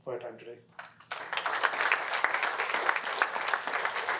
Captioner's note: applause